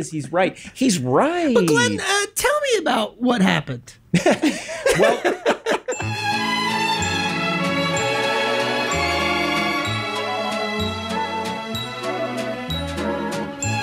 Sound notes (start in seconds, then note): 4.1 group laughs; 5.9 gentle whimsical music